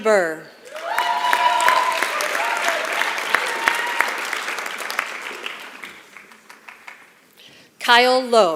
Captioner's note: applause